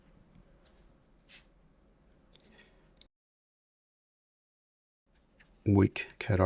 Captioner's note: silence